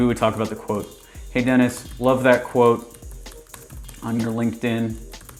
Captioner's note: keyboard typing